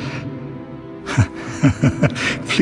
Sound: laughs in disbelief

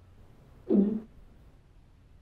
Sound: gulps

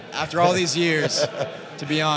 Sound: chuckles

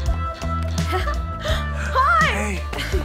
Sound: calm music; giggles

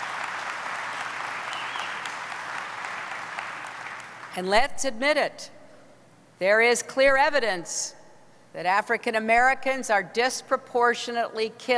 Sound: applause

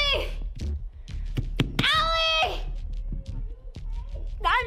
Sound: hand bangs

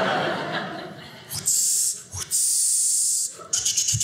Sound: audience laughing; mimics grilling sound; mimics chopping sound

